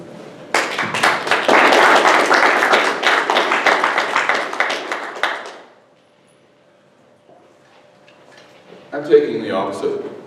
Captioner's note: applause